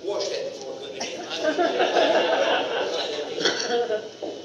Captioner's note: audience laughter